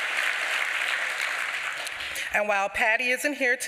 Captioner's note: applause